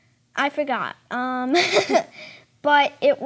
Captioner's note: chuckling